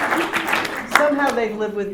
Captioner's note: laughter; applause